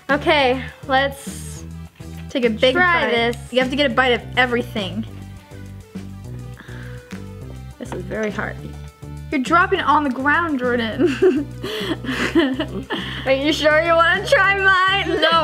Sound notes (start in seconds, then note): 11.0 chuckles